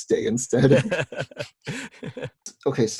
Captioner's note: laughing